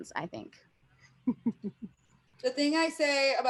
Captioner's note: chuckles